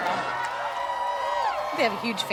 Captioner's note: crowd cheering